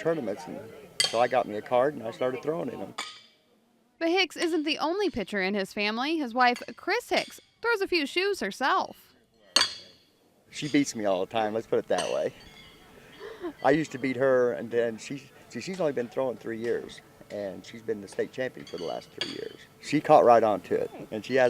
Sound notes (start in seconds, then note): 3.0 horseshoe clinking metal rod; 8.9 horseshoe clinking metal rod